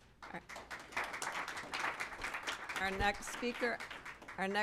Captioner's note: applause